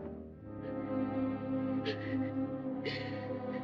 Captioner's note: sobbing